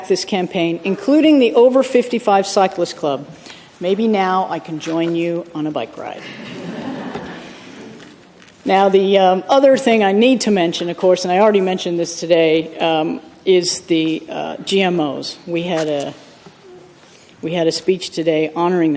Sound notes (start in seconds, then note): 6.2 laughter